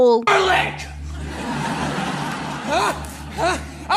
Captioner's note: audience laughter